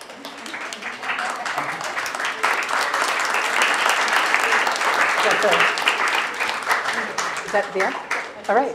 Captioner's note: applause